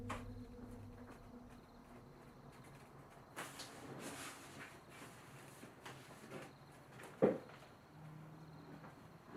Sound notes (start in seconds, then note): 1.5 spooky sound fades to crickets